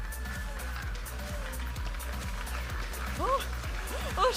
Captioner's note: audience applauding and cheering; vibrant music